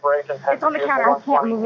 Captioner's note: voices on police radio, indistinct